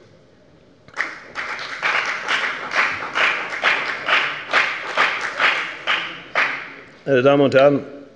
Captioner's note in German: Beifall bei der FDP